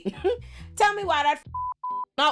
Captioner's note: beep